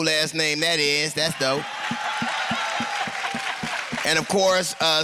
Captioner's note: laughter and applause